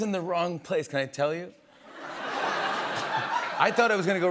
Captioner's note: laughter